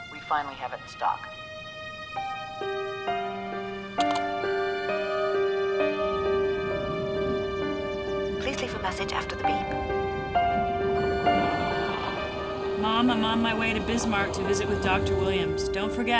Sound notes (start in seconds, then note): 1.8 dramatic orchestral music; 4.0 answering machine beeps; 11.3 answering machine beeps